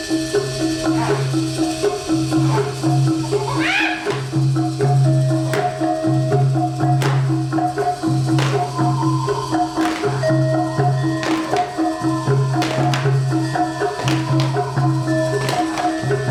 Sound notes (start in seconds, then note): 3.8 monkey sounds